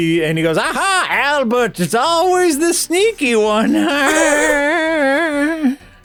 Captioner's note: a deranged kind of laugh